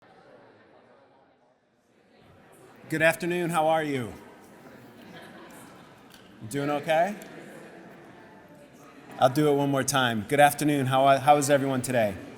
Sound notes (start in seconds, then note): 5.1 audience chattering